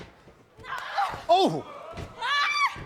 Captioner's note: Royce shouts